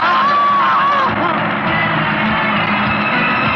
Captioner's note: yelling